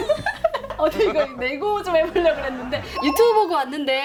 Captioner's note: haha